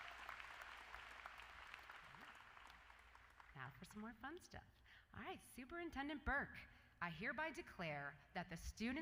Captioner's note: applause